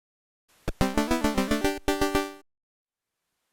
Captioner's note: jaunty C64 sound effect